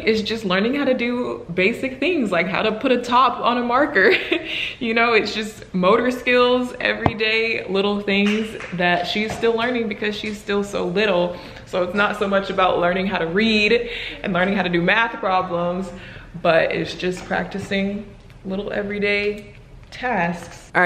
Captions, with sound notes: is just learning how to do basic things like how to put a top on a marker. (laughs) You know it's just motor skills, everyday little things that she's still learning because she's still so little. So it's not so much about learning how to read and learning how to do math problems, but it's just practicing little everyday tasks.